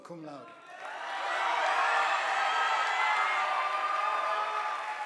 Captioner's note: audience applauding